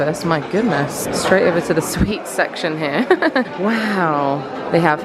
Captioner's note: laughs